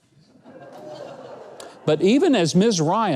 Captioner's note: audience laughing